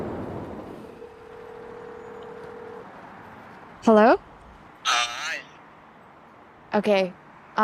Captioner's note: phone rings